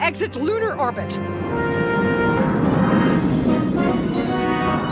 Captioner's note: engines roaring